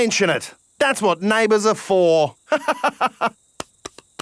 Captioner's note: laughs